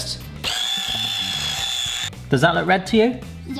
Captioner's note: mixer noises